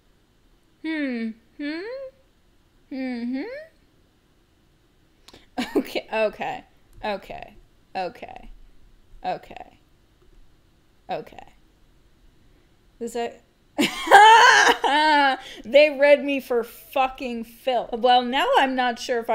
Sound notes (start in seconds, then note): 13.8 laugh